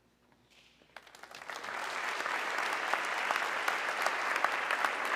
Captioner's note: audience clapping